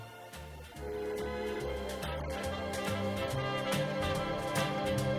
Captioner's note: laughs